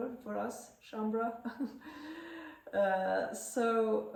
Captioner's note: laughter